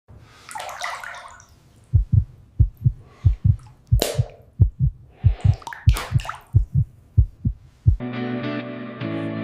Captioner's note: water pouring; heart beating